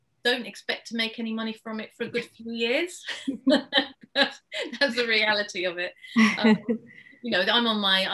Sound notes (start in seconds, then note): 6.1 laughs